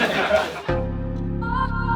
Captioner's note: teammates chuckle; contemplative music